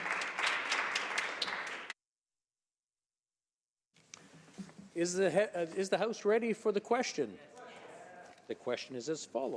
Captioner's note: some Applause